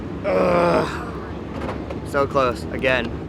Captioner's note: groans